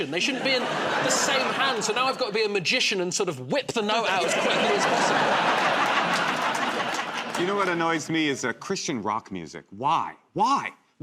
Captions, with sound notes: They shouldn't be in the same hand. So now I've got to be a magician and sort of whip the note out as quickly as possible. [ Laughter ] -You know what annoys me is, uh, Christian rock music. Why? Why?